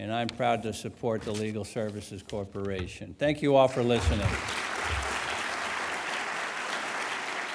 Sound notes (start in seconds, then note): 3.9 applause